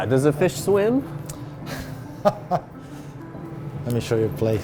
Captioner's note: laughter